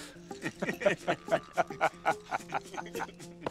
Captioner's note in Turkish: Gülme sesi